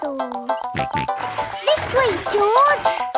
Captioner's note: george snorts